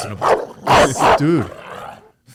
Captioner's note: dog barks